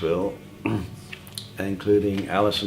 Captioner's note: clears throat